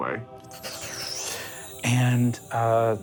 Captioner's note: magical twinkling